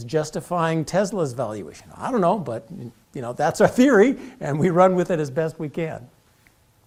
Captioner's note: laugh